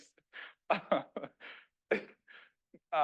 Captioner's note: laughing